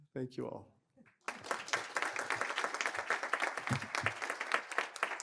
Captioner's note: applause